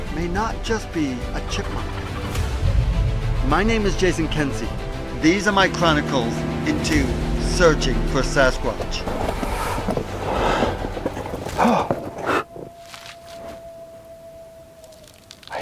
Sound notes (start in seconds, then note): 11.7 gasps